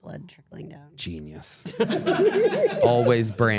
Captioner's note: everyone laughs